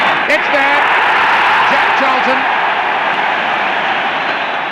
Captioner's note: crowd roaring